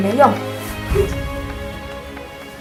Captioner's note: hmph